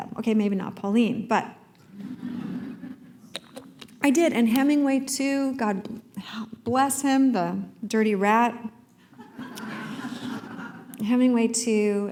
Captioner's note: laughter